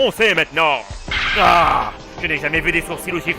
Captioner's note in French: bruitage révélation